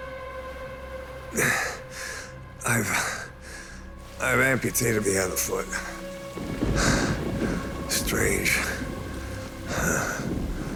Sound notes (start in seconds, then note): 0.4 grunts; 6.3 thunder crashes